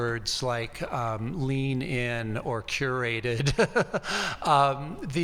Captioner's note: laughs